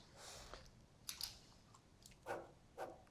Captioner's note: pen clicks